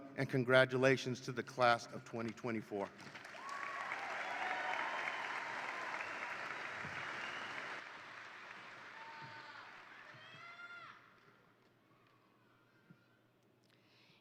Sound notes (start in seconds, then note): 3.0 attendees applaud; 3.2 attendees cheer